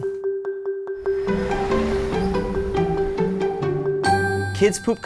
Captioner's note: cheerful music; bus whooshing past